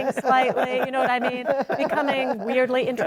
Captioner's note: all laughing